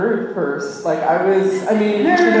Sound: laughter

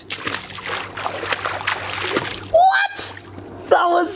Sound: splashes

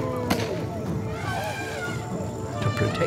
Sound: elephant trumpets

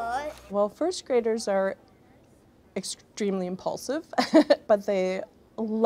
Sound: laughs

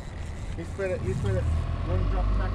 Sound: reel spinning

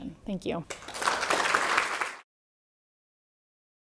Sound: applause

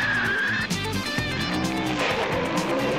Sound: tires screeching

